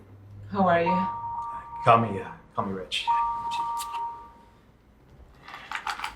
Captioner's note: phone ringing